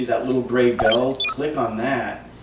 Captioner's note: electric chirping